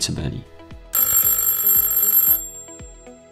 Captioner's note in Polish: dźwięk dzwonka